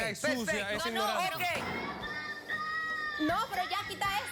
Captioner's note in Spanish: llanto infantil